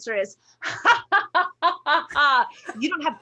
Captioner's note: laughs